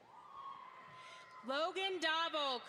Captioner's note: audience applauds